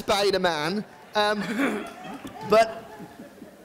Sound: audience laughing

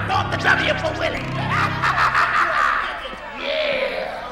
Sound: evil laughter

